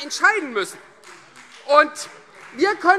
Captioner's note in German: Beifall Freie Demokraten